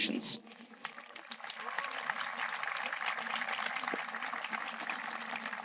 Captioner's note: audience applauding